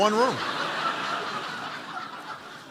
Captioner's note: laughter